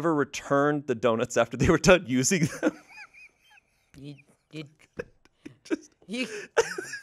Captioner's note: laughs